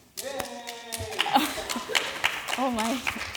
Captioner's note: applause